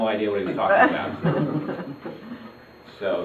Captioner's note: audience laughs